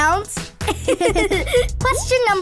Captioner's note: giggling